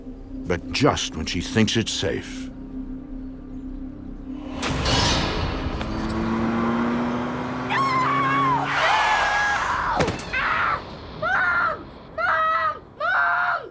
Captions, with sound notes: but just when she thinks it's safe. (car revving) - No! - No! (screams) Mom, mom, mom!